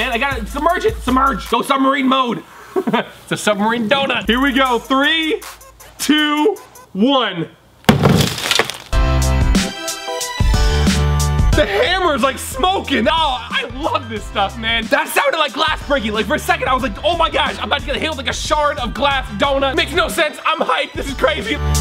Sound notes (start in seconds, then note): 2.6 chuckles; 7.9 hammer bangs; 9.0 upbeat dramatic music; 21.0 upbeat dramatic music